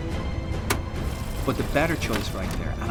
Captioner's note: whirring